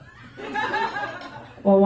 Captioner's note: laughter